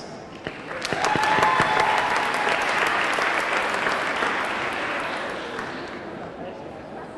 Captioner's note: audience clapping; audience cheering